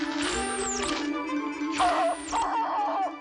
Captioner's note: hooting